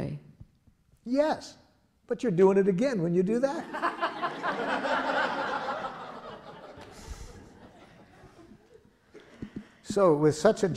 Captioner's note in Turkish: Gülüşmeler